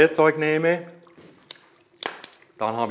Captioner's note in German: Es knallt leise beim Anzünden